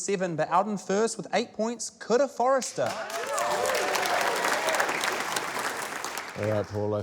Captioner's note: cheering, applause